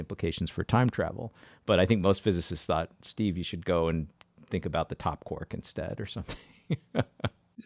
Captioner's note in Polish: śmieje się